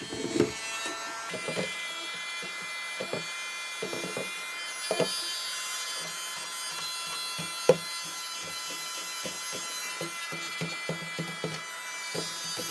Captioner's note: sped up vacumming